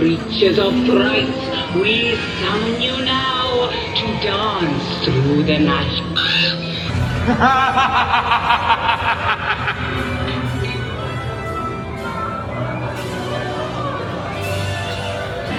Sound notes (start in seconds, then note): 6.7 crow caws; 7.8 intense music; 7.8 sinister cackling